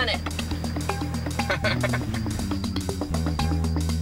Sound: laughing

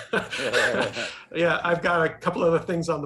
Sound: laugh

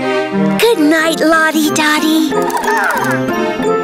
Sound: Lottie Dottie chirps

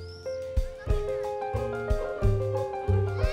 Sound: children voices

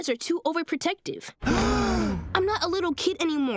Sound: gasping

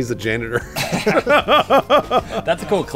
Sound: laughter

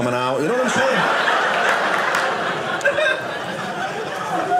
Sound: audience laughing

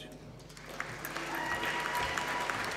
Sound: applause

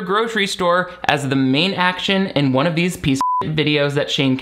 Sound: beep

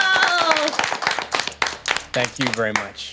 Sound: group clapping

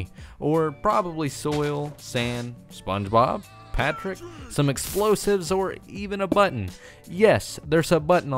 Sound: Spongebob laughs

